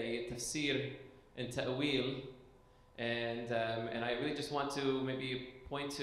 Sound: speaking foreign language

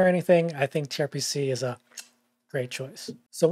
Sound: kissing

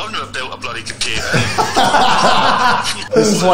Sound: laugh

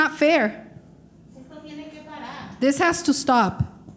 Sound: speaking in foreign language

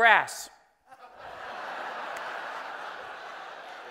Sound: laughing

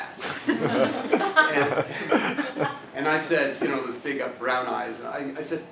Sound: laugh

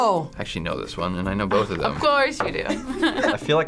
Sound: laughs

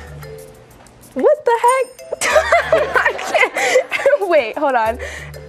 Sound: laughter

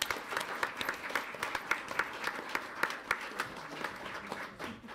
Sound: audience applauds

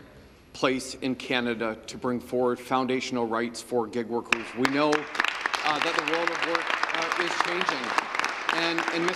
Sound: some Applause

